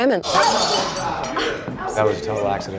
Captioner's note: glass smashing; patrons exclaiming